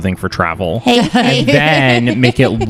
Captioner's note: laughs